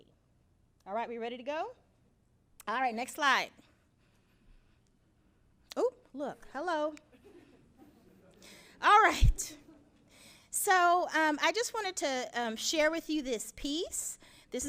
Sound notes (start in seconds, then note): 7.1 audience chuckles; 9.7 chuckles